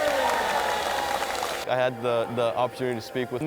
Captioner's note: cheers and applause